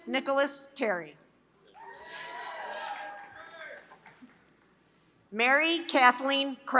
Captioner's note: applause